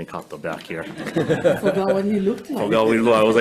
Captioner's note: crowd laughing